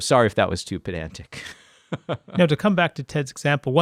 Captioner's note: laughs